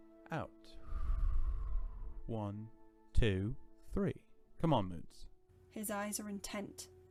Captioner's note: Sirius breathes slowly